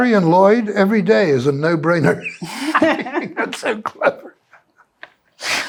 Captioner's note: laughter